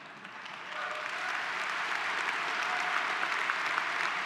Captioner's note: applause